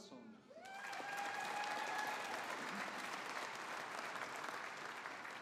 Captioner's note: audience applauding